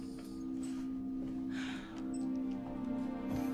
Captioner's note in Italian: sospiro